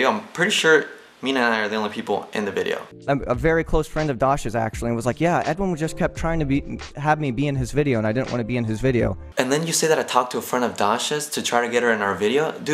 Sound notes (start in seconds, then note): none